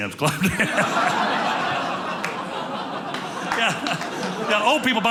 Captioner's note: audience laughing